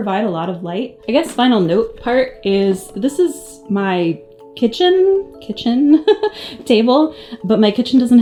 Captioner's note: laughs